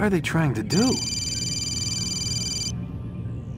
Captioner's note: phone rings